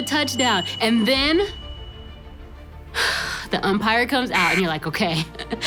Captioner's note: exhales